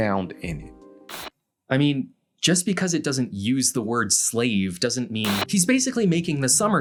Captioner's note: static